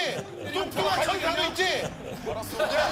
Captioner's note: yelling